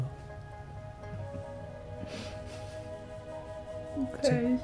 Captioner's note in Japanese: すすり泣き